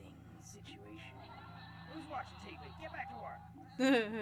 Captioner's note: laugh machine